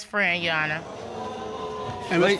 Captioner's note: audience exclaiming